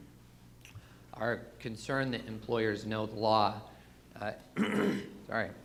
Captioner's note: clears throat